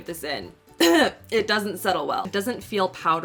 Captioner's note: clears throat